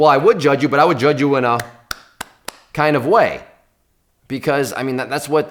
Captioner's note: clapping